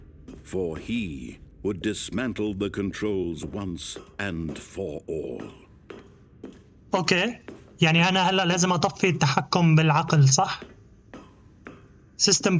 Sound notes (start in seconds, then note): 5.7 footsteps